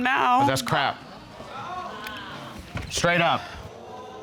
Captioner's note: audience exclaiming